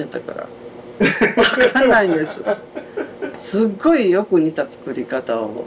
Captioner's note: laughs